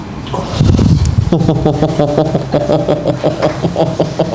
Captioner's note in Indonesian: tertawa